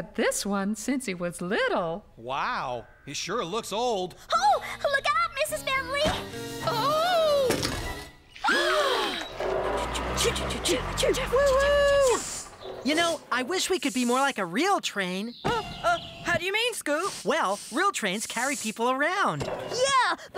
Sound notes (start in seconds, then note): 6.7 thud!; 7.9 crash; 9.1 gasp!